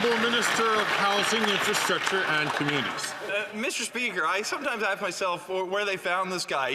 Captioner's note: some Applause